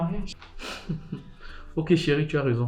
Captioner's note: laughs